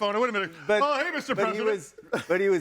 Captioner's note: chuckling